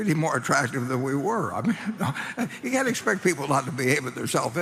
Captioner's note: laughs